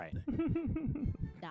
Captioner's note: laughing